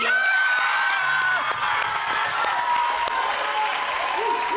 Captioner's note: audience applaud